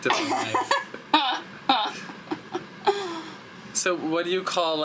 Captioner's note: laughs